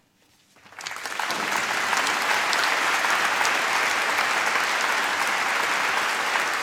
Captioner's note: applause